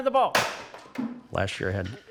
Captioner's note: bat hits floor